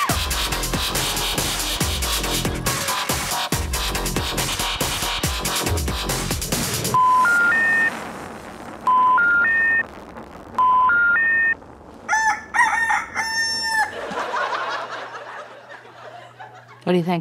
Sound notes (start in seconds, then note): 0.0 electronic dance music continues; 7.0 telephone noise; 12.0 rooster crowing